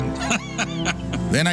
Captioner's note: laughs